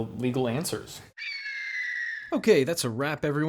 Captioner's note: eagle screeching